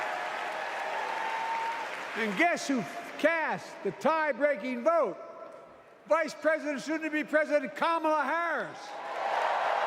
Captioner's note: cheers and applause